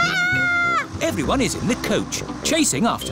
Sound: shrieks

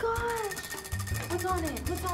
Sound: wheel rattling

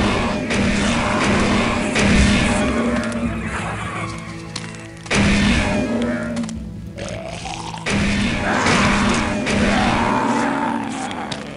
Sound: gunfire and monster roars

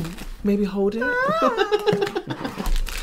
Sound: screams of Pain

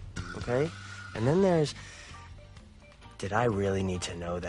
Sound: inhales

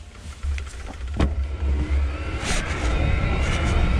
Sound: whirring

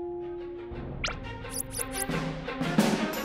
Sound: squeaking; suspenseful music

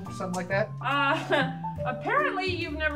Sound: chukles

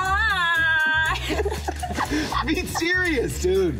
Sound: all laughing

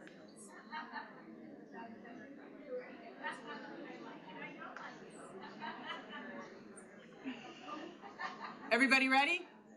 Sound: chatter; chatter

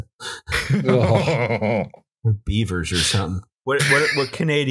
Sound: laughter

